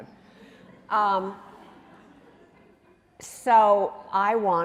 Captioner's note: audience chuckling